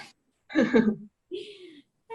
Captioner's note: laughs